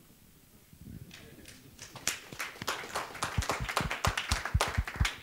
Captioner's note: clapping